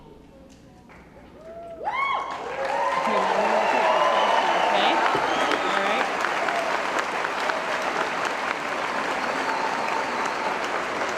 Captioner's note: cheering & Applause